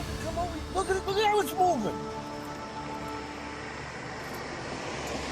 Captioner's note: traffic whoosing